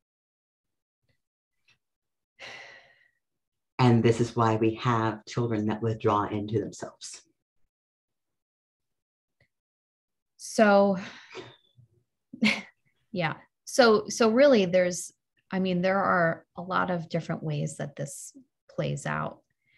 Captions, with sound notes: - And this is why we have children that withdraw into themselves. - So, (sighs) (chuckles) yeah, so really, there's, I mean, there are a lot of different ways that this plays out